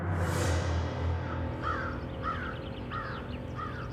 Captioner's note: bird cawing